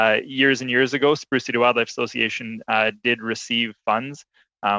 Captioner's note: chuckles